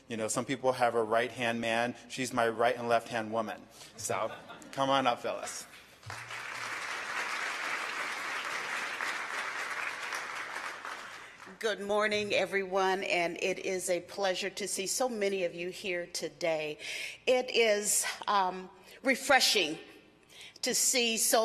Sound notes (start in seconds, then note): 8.2 applause